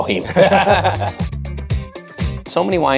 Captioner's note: upbeat music continues; group laughs